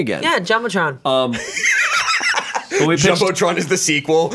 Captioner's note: laughs